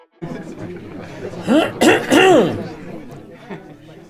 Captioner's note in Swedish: kraftig harkling